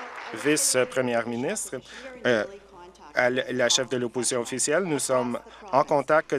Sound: applause

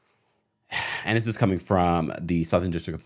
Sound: sighs

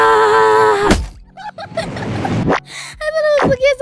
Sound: laughing

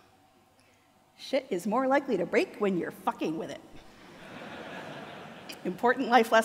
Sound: audience laughter

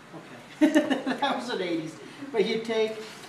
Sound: laughs

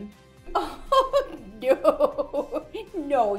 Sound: laughs

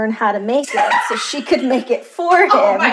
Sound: laughter

